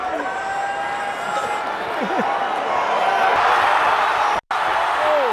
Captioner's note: crowd yelling